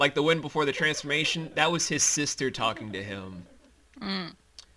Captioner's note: happily chuckles